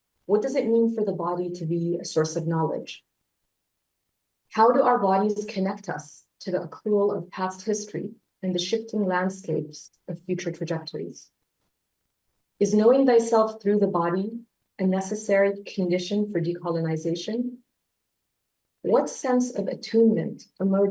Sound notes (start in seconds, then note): none